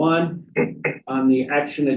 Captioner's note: knock on table